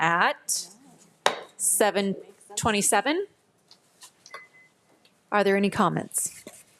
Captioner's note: gavel thuds